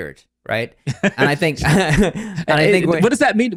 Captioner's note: laughs